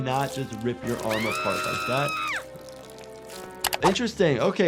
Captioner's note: Sniffles screaming